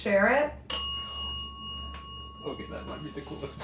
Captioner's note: bell dings